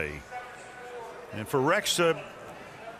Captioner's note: stadium announcements